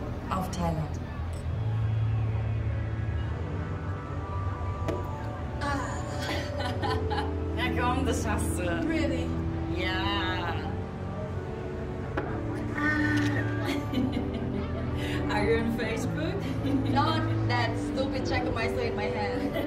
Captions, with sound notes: Cheers to Thailand! Ugh! (chuckles) Come on. You can do the rest. Really? Yeeees. Aaaaah. Are you on facebook? Not with that stupid Jagermeister in my hand!